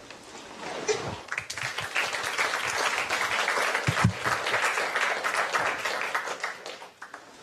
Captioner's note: applause